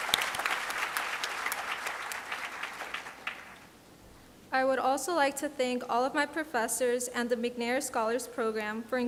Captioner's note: applause